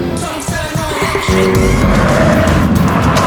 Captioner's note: eeeek!